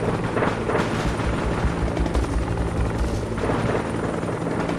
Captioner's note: guns blaring continues